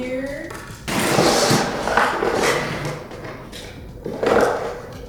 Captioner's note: floor scraping